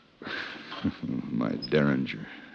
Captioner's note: chuckles